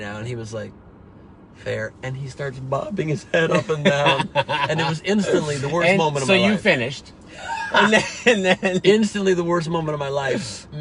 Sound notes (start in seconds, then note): 7.4 laughs